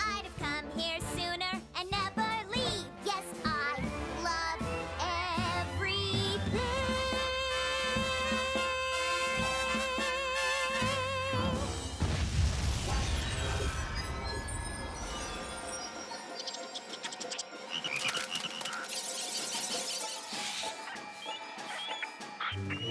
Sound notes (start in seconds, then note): 11.7 boom!; 15.0 chittering; 18.0 ribbiting; 19.4 chirping; 20.0 squealing